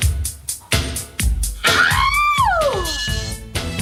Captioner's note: screams